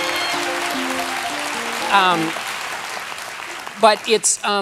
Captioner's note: piano riff; cheers and applause